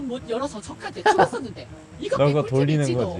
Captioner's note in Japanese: ははは